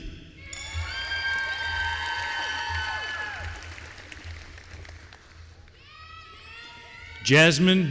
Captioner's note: applause